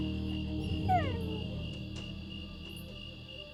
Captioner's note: door creaks open; wiley whimpers